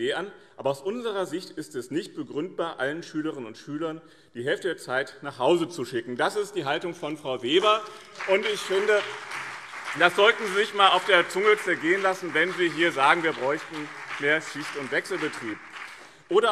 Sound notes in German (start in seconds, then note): 8.3 Beifall BÜNDNIS 90/DIE GRÜNEN und CDU